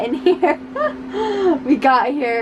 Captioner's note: laughing